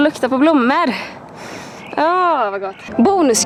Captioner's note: sniff